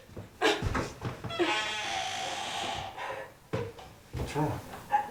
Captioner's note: door creaks; sobs